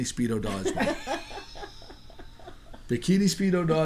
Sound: laughing

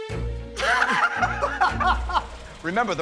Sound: laughter

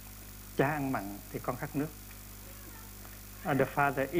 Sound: speaking Vietnamese

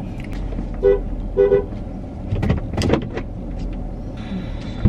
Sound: car honking

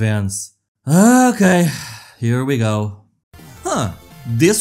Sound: sighs

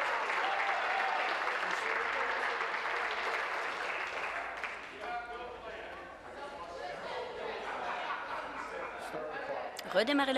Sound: applause

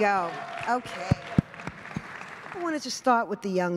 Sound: applause

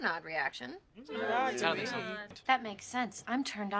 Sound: group makes various sounds of disagreement

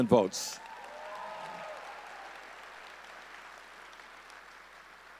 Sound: audience cheering

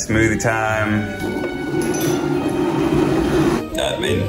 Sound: blender whirs

